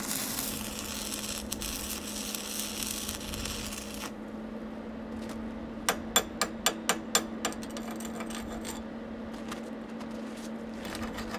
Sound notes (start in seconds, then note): 3.5 welder sputtering; 5.8 metal clinking and grating